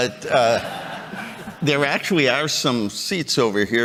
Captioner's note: chuckles